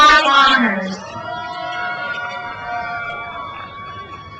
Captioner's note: crowd cheers